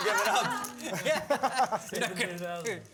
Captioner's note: laughter